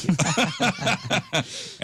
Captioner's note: laughter